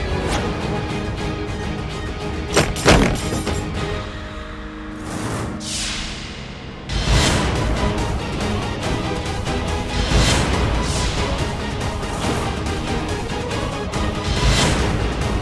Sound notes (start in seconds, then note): 2.5 clanging; 6.6 dramatic music